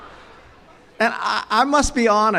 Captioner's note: chuckles